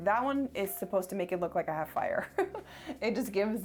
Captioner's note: laughs